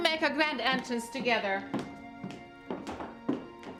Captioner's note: footsteps coming down the stairs